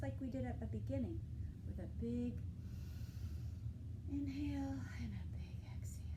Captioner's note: inhaling